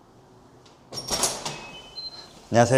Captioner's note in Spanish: puerta abriéndose